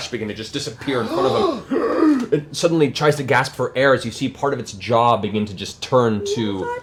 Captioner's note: gasps